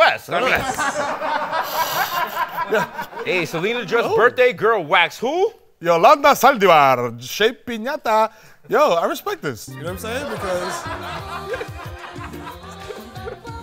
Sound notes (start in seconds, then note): 6.2 in spanish accent